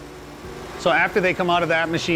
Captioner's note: machine whirring